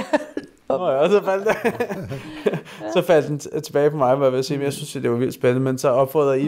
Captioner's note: laughs